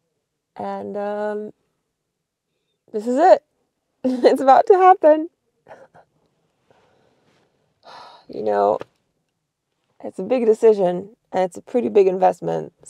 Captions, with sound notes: And this is it. (chuckles) It's about to happen. You know, it's a big decision and it's a pretty big investment.